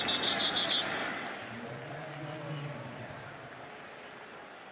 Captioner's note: whistle